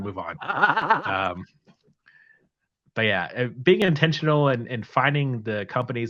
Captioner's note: laughter